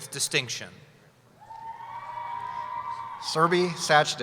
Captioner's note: cheering